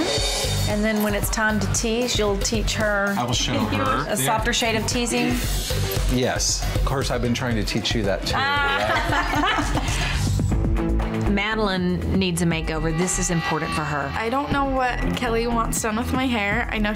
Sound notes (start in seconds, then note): 8.4 laughs